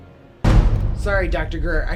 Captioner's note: startling tone